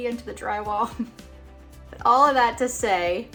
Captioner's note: chuckling